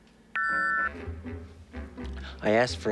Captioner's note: beeping